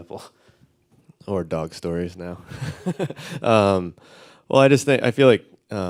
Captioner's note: laughs